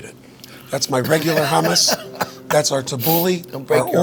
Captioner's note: chuckles